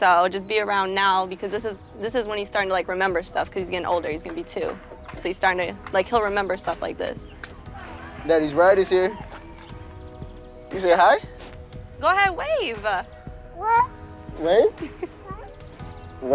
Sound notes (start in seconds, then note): 13.6 baby coos